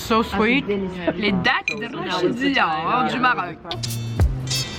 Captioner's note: speaking french